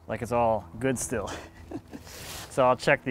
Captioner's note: chuckling